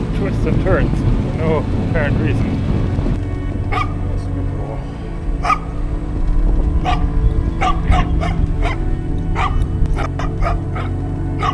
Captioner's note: dog barking